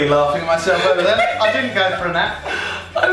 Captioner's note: laughing